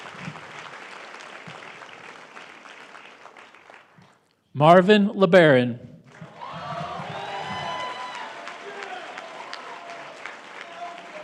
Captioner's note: applause